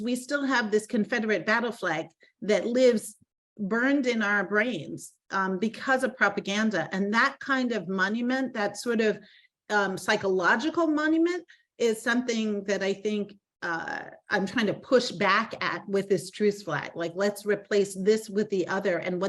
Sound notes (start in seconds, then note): none